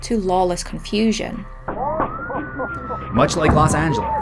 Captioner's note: gunshots, sirens and laughter